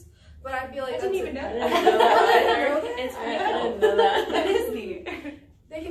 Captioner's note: all laughing and talking at once